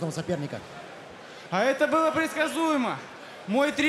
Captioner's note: foreign